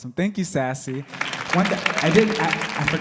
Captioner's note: audience clapping